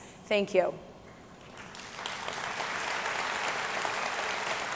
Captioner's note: audience clapping